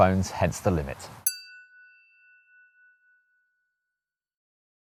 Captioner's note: chiming tone